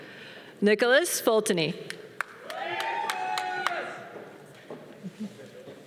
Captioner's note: audience cheering